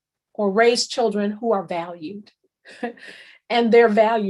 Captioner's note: chuckles